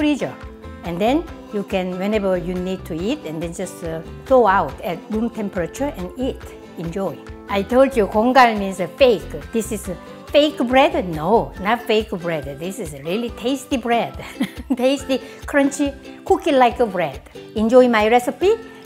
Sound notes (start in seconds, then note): 14.2 laughs